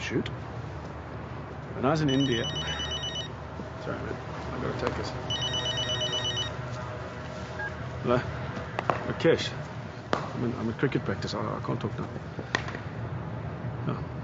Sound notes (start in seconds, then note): 2.1 ringing; 7.0 beeps; 8.7 cracks; 8.8 bats cracking; 13.3 cracking